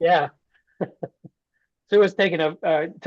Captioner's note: laughter